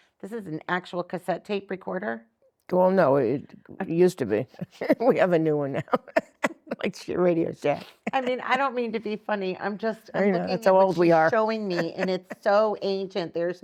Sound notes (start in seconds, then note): 6.8 laughs